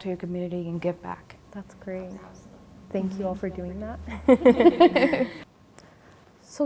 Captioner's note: everyone laughs